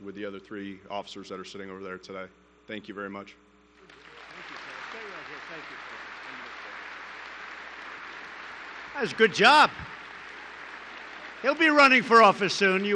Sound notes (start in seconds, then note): 3.8 applause